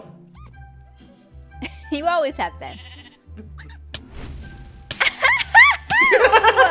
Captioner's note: laughs